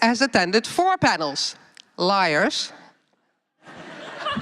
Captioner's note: laughter